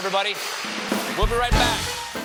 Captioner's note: cheers and applause